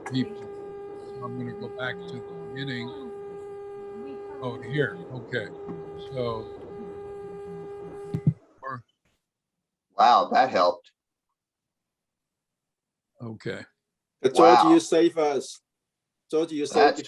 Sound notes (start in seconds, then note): 9.0 background noise abruptly stops